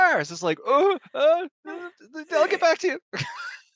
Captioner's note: nervous stammering; both laugh